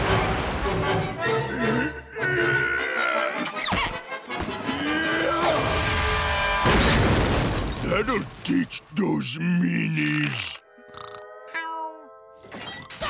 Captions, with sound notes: [grunting] That'll teach those meanies. [snoring]